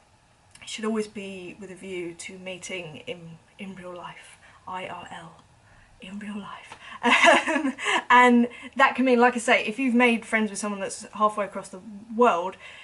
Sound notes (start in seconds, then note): 7.0 laughing